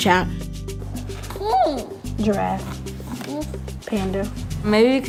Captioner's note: baby babbling